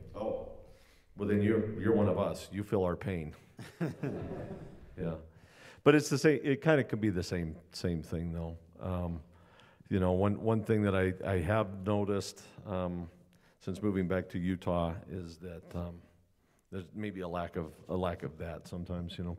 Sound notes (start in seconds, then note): 3.5 laughter